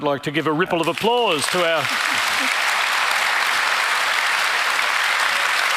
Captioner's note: audience applauding